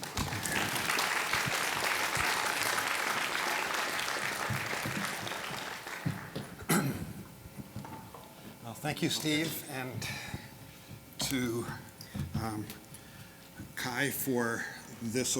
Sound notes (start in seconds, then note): 0.0 applause; 6.6 clears throat